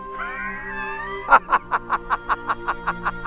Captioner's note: laughing